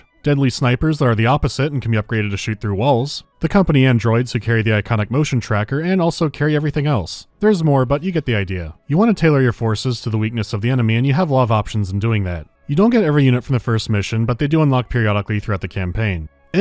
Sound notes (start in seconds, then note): none